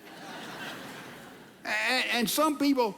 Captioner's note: audience laughing